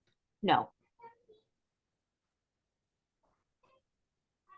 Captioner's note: people chattering